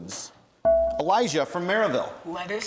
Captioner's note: bell rings